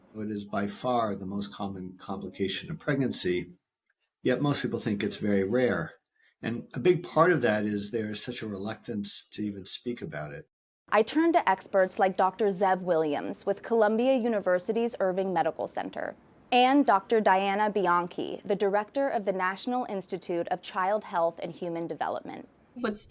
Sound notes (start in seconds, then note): 11.4 voice-over